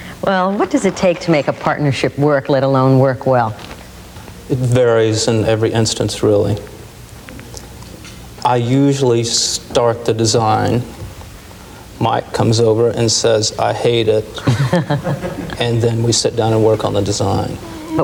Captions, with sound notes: - Well what does it take to make a partnership work, let alone work well? - It varies in every instance really. I usually start the design. Mike comes over and says, "I hate it." (laughing) And then we sit down and work on the design.